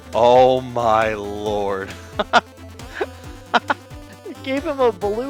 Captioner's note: gasp